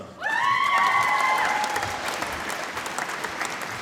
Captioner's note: applause